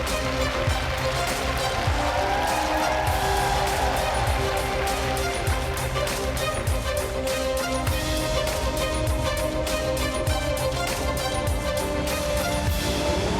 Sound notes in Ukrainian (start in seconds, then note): 2.0 оплески